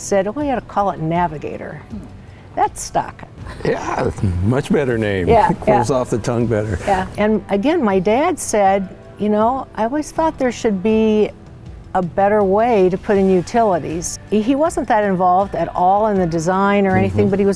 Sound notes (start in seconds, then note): 3.4 laughing